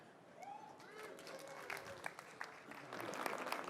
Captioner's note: applause